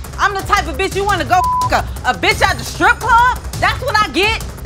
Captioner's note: beep